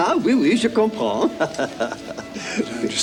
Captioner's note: John speaks French